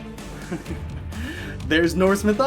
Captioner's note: chuckles